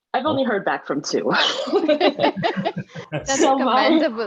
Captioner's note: all chuckles